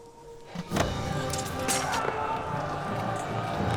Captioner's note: arrow hits; dark elves yelling